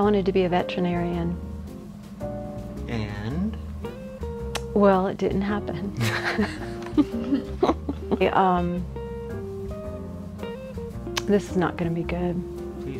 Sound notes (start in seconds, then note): 6.0 all laughing